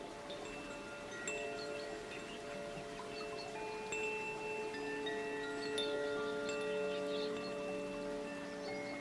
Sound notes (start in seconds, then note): 0.0 chimes tinkling; 0.1 water running